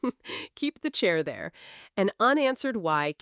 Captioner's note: chuckles